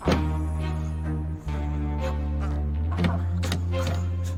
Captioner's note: grunting